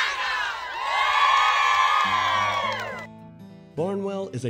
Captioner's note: cheering